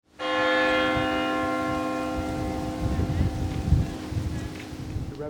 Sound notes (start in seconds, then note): 0.1 bells ringing; 2.9 wind rustling